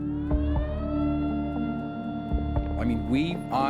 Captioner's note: siren blaring